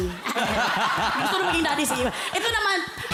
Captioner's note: laughter